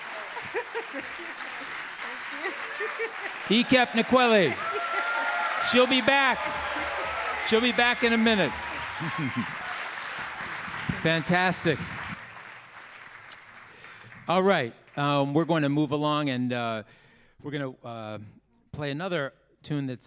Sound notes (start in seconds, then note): 4.7 audience applauding; 4.7 audience cheering